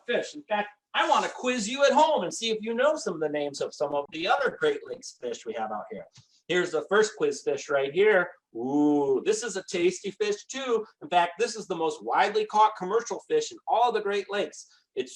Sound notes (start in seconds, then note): none